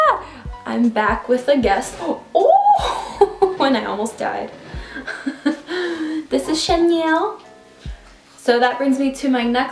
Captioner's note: risos